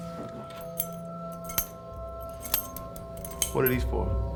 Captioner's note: clinking